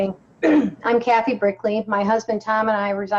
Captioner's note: clears throat